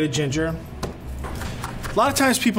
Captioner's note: chopping